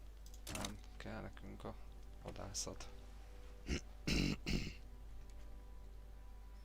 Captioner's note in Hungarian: köhögés